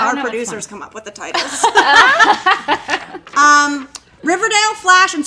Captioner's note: laughing